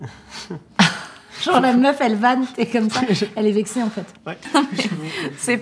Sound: laughter

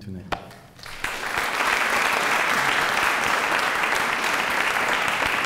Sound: applause

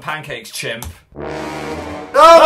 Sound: dramatic noise pt2

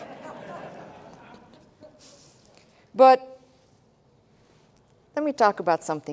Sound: laughter

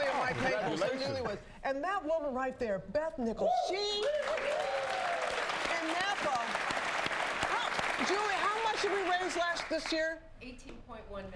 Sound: applause

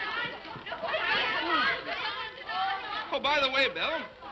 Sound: laughs; children clamoring

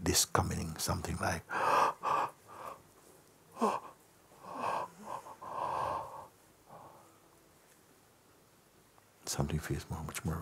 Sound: big yawn

